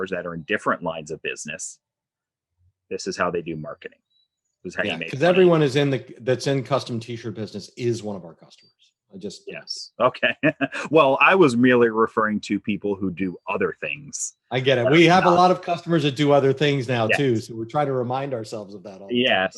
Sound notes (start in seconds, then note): 10.0 laughs